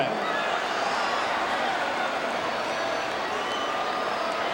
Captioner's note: audience cheering